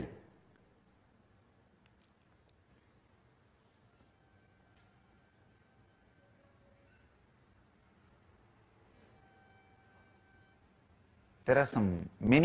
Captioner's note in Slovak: pause